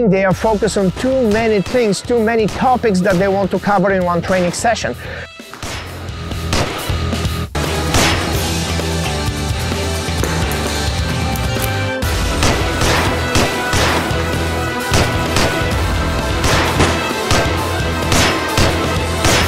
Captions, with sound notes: They are focused on too many things, too many topics that they want to cover in one training session. (intense music) (pistol firing)